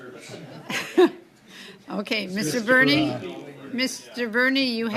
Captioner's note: laughter